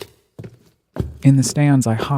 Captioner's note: footsteps echo